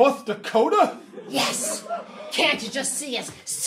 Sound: audience laughing

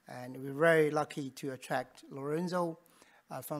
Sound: none

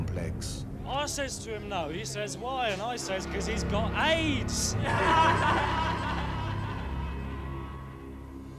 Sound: laughter

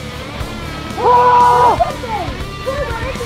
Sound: Troy Shouting

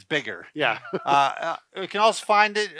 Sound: chuckles

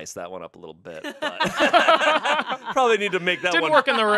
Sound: everyone laughs

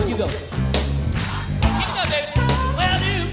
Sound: crowd

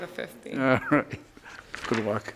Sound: judge laughs

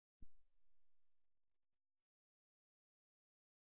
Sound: silence

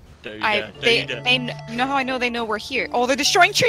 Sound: stutters

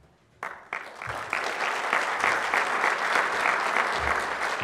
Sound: audience applauds

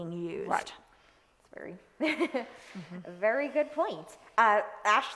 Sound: chuckles

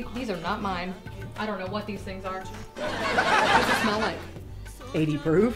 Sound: laughter

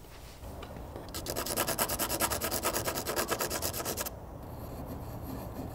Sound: scratching sounds

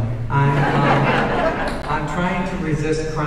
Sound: audience laughing

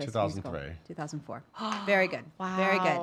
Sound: gasping

